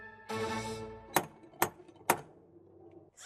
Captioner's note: knock, knock